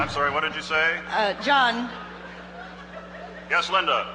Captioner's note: voiceover